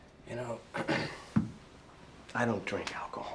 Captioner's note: clears throat; soda can thuds